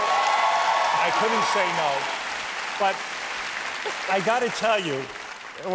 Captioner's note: cheers and applause